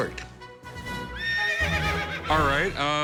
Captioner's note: horse whinny